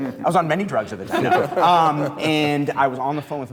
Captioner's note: laughter